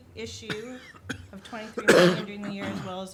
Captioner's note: man coughing